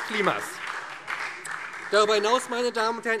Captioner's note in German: Beifall SPD